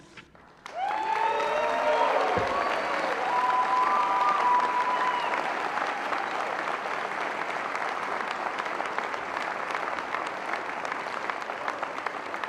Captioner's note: cheering and Applause